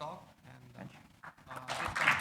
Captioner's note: applause